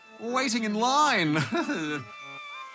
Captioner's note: laughs weakly